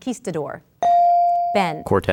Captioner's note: ding